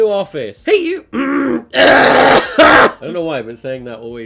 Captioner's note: clears throat